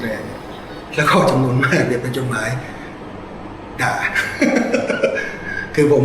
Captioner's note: laughs